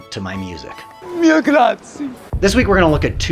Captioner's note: speaking Italian